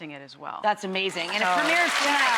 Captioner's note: crowd clapping